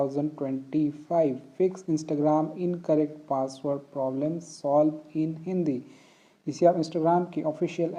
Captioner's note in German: auf Hindi